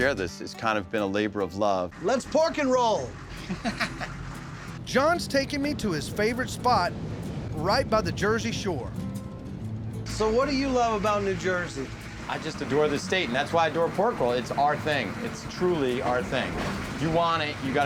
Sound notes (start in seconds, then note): 3.3 laughter